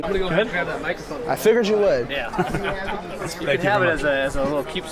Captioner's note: laughs